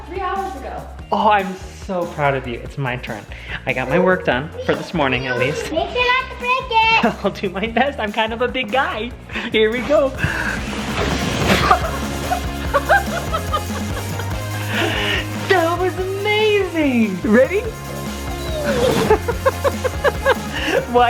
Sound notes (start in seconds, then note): 11.4 laughs; 18.3 laughs